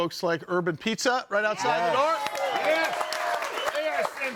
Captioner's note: audience cheering